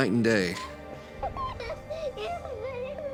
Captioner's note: laughter